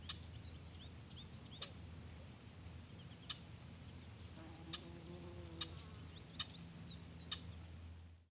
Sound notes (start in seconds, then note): 4.4 fly buzzing